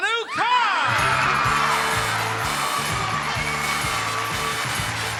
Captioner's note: audience cheers